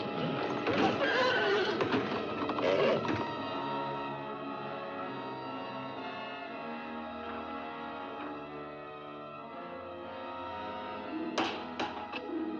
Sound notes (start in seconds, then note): 0.6 horse neighs and grunts; 0.7 stall doors bang; 3.2 suspenseful music; 11.4 window bangs; 12.2 suspenseful music